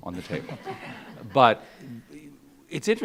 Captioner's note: audience laughs